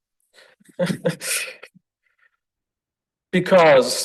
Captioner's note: lecturer laughs